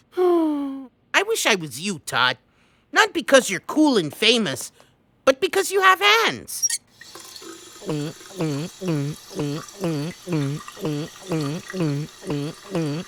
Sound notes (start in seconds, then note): 7.7 gulping